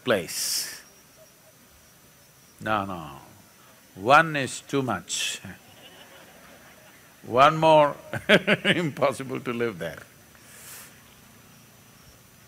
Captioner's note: laughs; few laugh